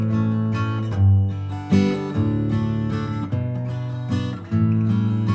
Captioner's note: none